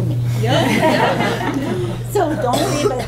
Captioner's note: laughter